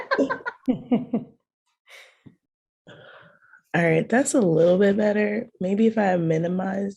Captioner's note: laughter